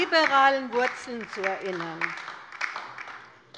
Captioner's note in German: Beifall bei der LINKEN